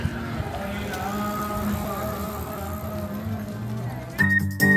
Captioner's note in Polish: Aplauz